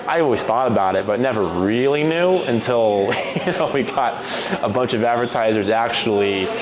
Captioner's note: laugh